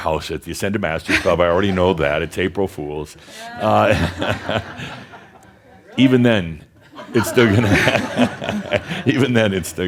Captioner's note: some laughter